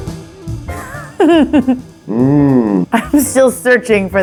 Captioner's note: jazzy music; Kate giggling